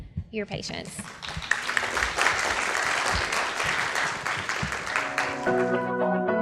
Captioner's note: applause